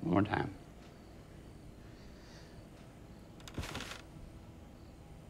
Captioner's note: crickets chirping